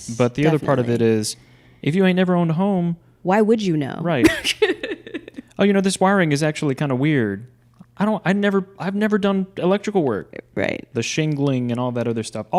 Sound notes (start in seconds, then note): 4.2 laughing